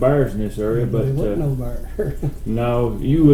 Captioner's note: chuckles